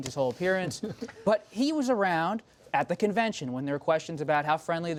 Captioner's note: laughter